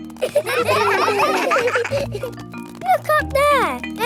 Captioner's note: children laughing